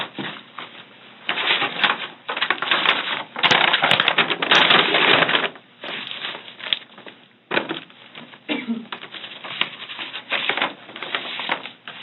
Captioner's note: paper bag rustles noisily